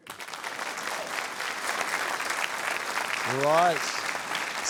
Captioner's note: applause